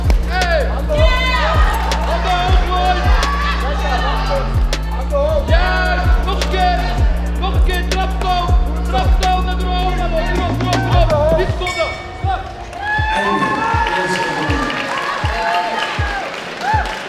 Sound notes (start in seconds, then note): 11.4 bell; 13.2 applause